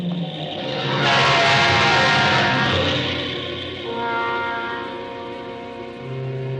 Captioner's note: intense music; truck horn honking